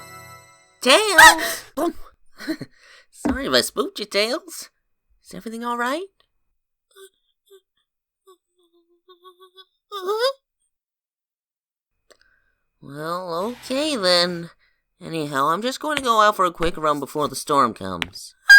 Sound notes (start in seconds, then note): 1.2 yelps; 2.8 chuckles